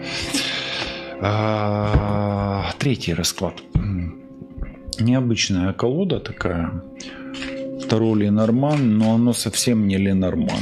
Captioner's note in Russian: откашливается